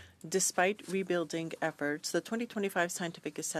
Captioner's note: speaking in French